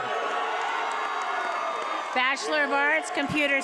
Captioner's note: attendees applauding and cheering